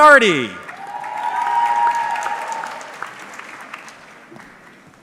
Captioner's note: audience cheering